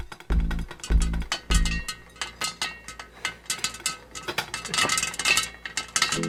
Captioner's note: kernels popping